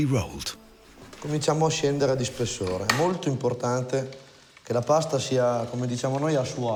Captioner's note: speaks in foreign language